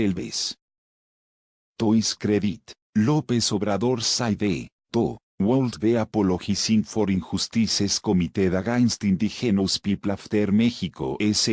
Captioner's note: Spanish